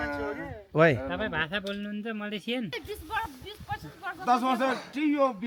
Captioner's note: speaking Nepali